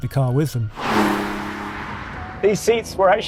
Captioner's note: engine revs